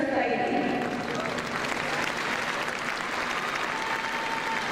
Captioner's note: crowd clapping